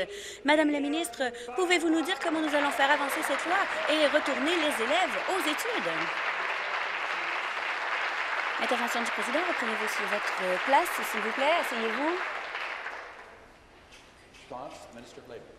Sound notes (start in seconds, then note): 6.4 applause